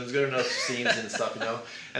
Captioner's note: laughs